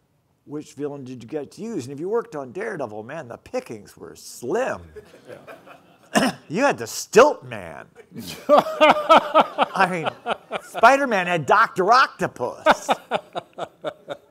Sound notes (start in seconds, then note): 4.9 audience laughing; 8.0 laughing